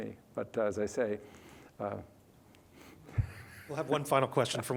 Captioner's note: chuckles